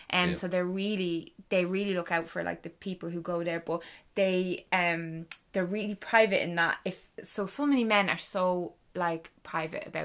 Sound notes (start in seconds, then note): none